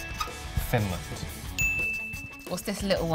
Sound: bell dings

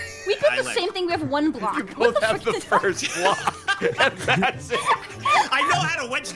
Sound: laughs

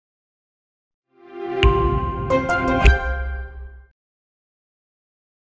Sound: ascending twinkling tones

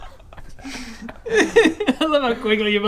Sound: laugh-cries

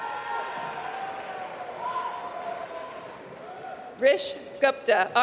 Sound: applause

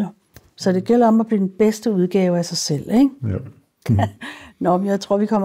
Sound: laughs

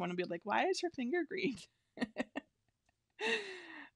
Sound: laughs

